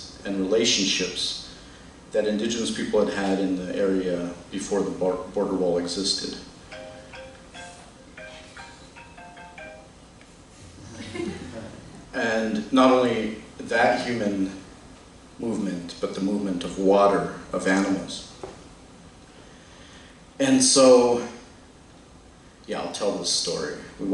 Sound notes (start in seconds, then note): 6.7 phone ringing; 10.8 laughter